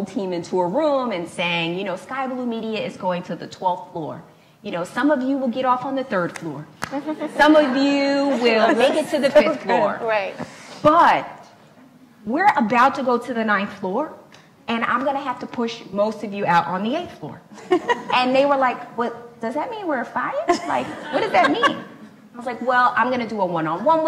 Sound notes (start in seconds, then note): 6.9 laughs; 18.0 laughs; 20.5 laughs